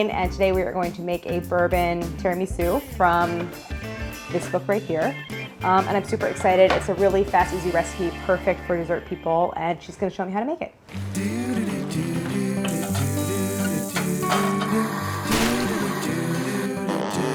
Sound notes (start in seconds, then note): 11.0 musical humming